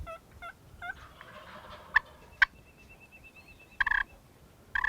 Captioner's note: turkey calling